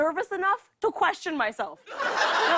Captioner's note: laughter